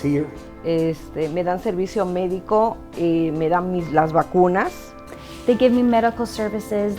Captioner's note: speaking in Spanish